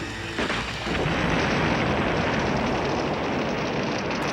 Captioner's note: booming explosion